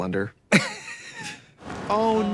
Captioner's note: Katya laughing